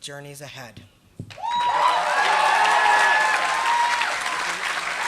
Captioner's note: applause